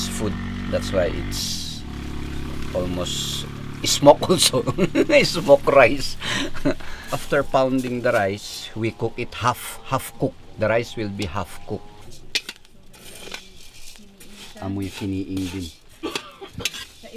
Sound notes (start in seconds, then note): 4.4 laughter